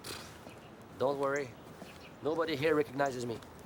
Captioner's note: scoffs